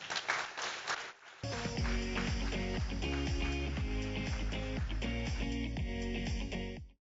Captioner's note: audience cheers; upbeat music